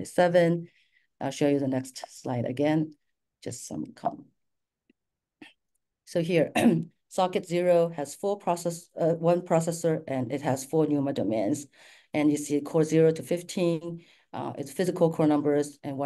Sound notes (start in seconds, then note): 6.4 clears throat